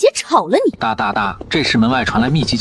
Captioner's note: tap tap tap